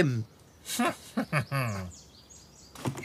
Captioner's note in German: kichert